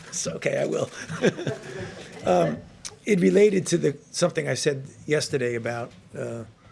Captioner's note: laughs